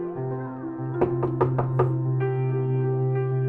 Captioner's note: a knock on the door